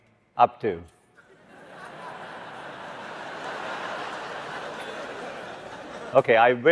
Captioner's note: laughter